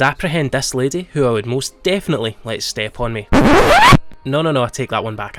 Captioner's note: record scratch